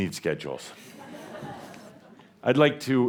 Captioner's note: some chuckles